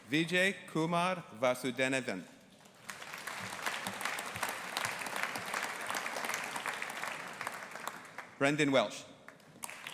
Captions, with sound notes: Vijay Kumar Vasudevan. (AUDIENCE APPLAUDING) Brendan Welsh.